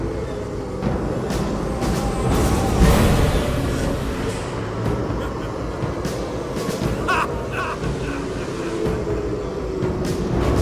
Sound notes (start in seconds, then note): 2.8 rising moaning of spirits; 9.6 dark music rises